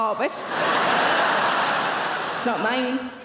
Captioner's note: audience laughing